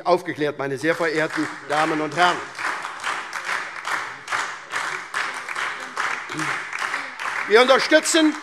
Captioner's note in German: Beifall SPD und DIE LINKE